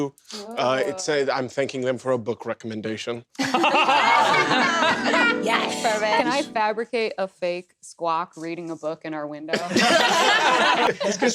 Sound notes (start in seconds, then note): 3.4 cast laughs, added a harp sound; 9.8 cast laughs